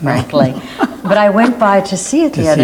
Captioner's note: Philip laughs